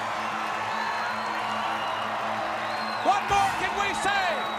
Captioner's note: crowd cheering